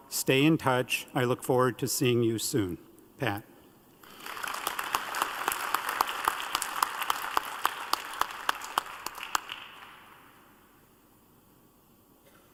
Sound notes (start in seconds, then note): 9.2 applause